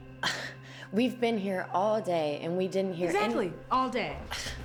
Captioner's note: scoffs